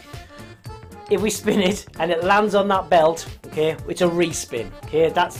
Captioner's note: laughs